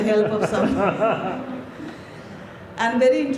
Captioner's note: laughs